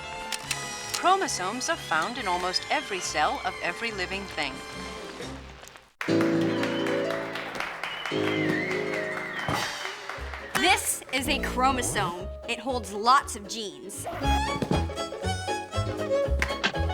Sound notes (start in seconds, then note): 6.0 applause, whistling; 14.4 ragtime music plays